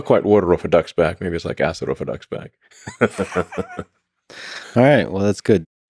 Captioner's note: laughs